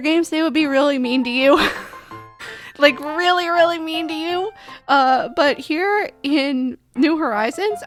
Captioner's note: laughing